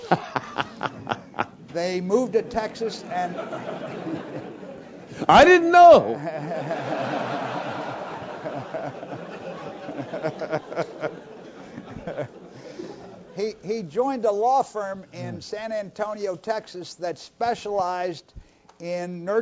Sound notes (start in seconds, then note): 0.4 laugh; 9.6 laugh